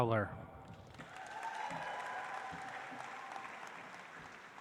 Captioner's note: audience applauds